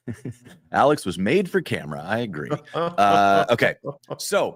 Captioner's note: laughter; laughter